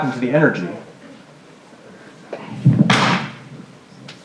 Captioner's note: crash sound